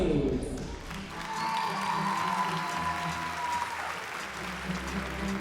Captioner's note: audience cheering, applauding